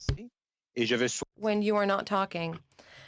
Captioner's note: speaking French